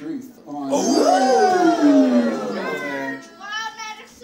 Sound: crowd cheers

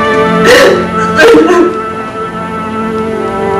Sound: cries

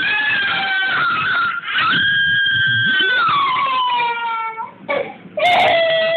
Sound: cough cough

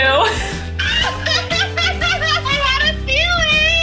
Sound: both laughing

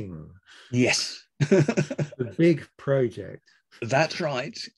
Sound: laughs

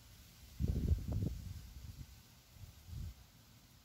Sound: wind noises

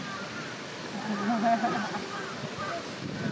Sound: chuckles

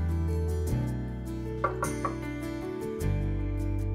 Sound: knocking

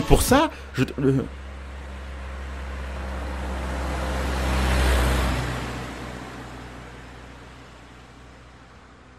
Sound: sound of a car gently passing

